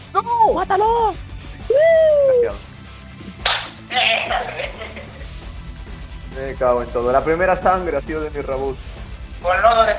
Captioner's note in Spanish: Sonido de fiesta